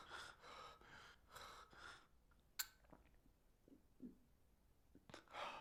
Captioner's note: gasping